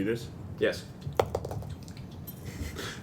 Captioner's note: dice roll